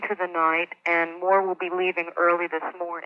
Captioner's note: archival news audio